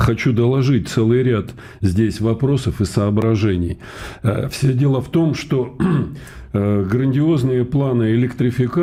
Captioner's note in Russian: откашливается